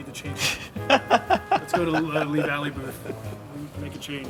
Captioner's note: laughter